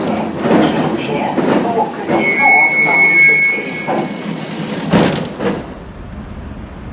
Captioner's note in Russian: открытие дверей